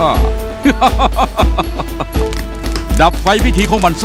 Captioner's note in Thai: หัวเราะ